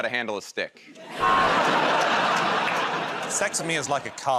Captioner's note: laughter